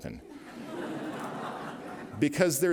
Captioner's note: laughter